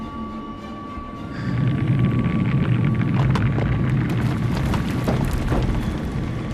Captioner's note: intense rumbling